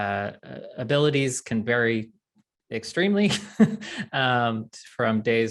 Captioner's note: chuckling